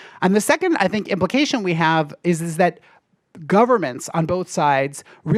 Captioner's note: none